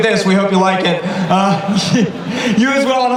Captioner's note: laughs